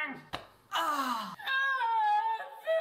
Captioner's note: dying gasp